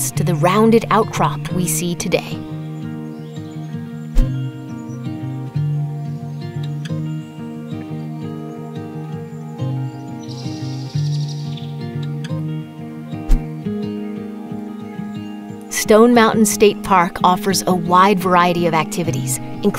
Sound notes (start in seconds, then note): 2.6 lighthearted music; 10.4 birds chirping